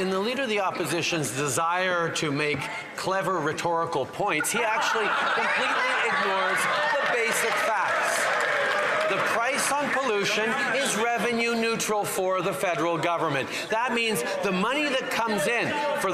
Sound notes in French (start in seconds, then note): 1.7 voix de l'interprète